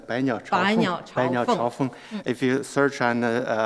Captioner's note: speaks in Mandarin; speak in Mandarin